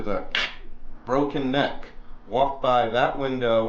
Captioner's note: mouth clicks